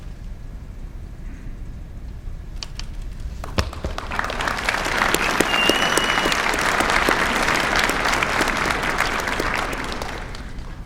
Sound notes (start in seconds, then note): 3.4 applause